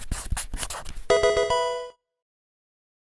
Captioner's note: marker scratching; electronic video game chime